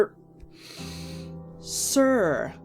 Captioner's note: deep breath